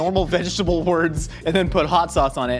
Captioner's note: laughs